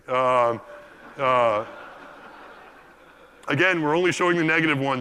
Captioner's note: laugh